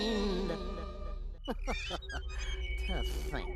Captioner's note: chuckling